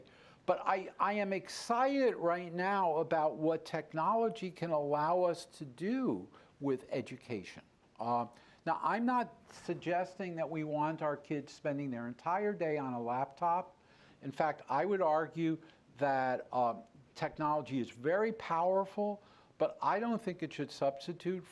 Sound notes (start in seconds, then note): none